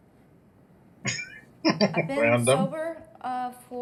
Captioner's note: chuckling